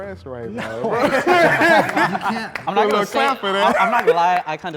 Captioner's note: group laughs